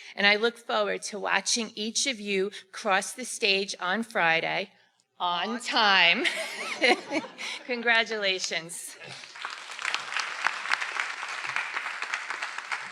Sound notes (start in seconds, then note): 6.2 everyone laughing; 9.0 everyone applauding